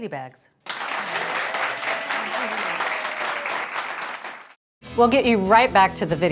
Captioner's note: audience applauding; audience cheering